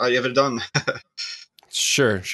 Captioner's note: laughs